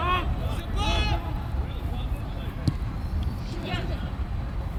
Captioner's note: players shouting